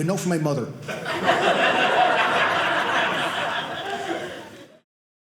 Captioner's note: audience laughing